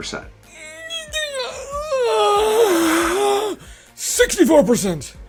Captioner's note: groans